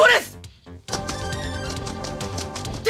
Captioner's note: SFX: footsteps running